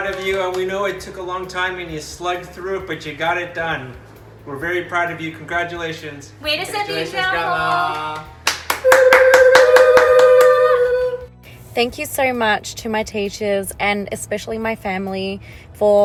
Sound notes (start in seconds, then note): 6.1 speak in foreign language; 8.6 all applauding